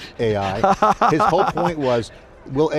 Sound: laughing

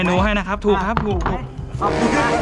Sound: pat; mysterious melody playing

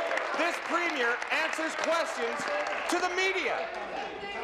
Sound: applause

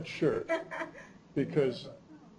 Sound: chuckle

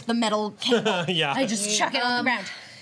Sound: laughs

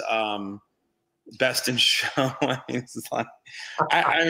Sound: laughs

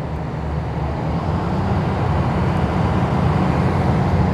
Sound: boat roars

